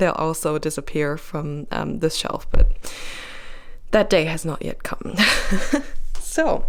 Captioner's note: laugh